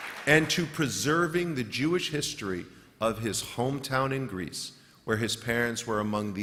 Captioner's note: applause